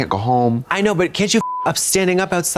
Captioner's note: beep